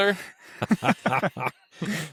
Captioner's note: laughing